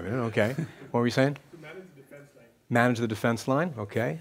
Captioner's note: voiceover